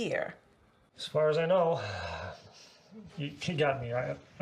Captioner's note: sighs